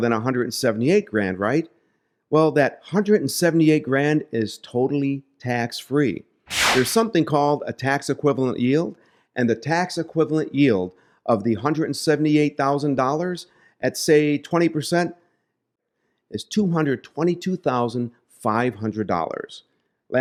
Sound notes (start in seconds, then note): 6.5 air whooshing